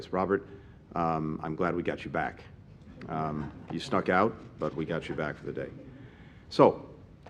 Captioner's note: laughter